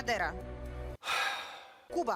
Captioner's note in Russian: вздыхает